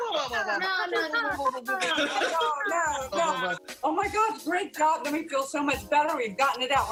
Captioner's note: laughter